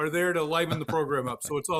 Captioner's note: laughs